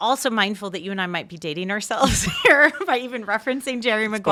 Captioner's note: chuckling